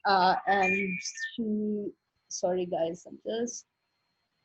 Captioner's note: ring tone